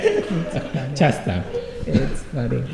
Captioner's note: laughter